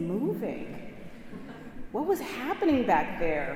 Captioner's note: congregation chuckling